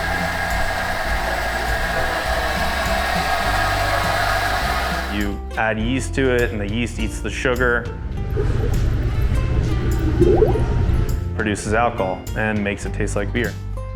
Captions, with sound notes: [Sound of beer in tank] You add yeast to it, and the yeast eats the sugar... [Sound of bubbles] ...produces alcohol and makes it taste like beer.